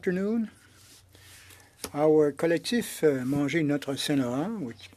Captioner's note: speaking French